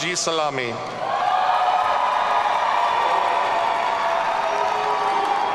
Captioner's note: audience cheering